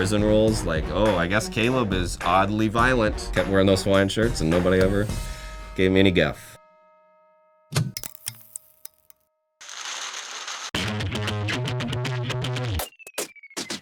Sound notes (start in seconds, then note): 5.0 bell chime; 7.8 ticking; 9.7 paper rustling